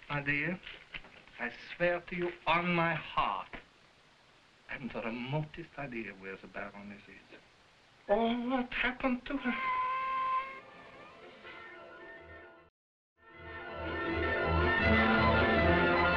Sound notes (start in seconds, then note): 9.5 cat meowing; 13.3 dramatic music